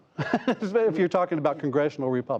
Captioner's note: laughter